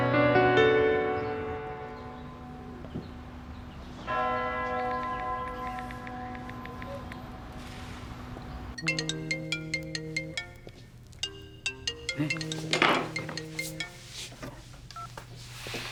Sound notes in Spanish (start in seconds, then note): 8.8 Suena el celular